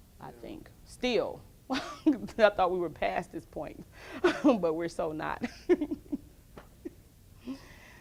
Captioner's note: laughs